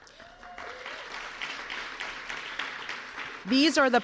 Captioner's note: applause